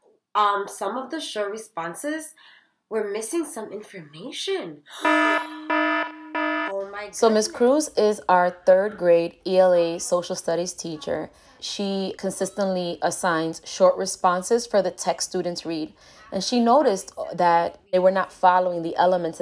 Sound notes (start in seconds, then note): 5.0 funny alarm sound